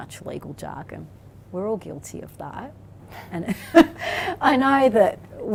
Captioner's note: laughs